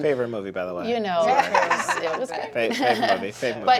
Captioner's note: laughter